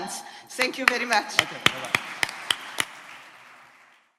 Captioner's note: audience applauds